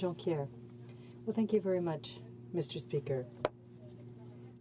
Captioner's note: speaking in french